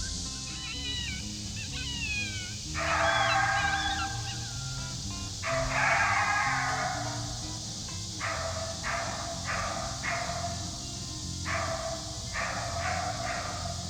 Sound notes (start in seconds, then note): 3.5 barking